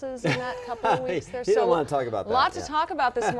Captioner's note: laughing